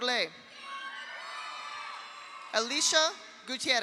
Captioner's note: audience cheers; audience applauds